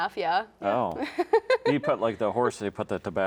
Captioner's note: laughs